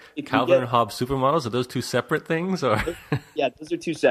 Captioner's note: laughs; laughs